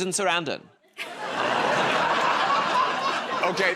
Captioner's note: laughter